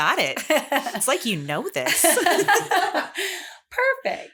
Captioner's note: laughter